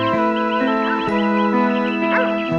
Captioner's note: dog barking